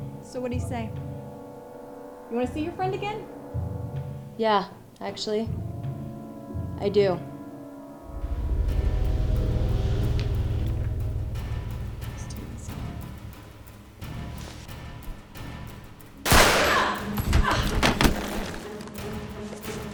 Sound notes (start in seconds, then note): 16.2 gun firing; 17.1 grunting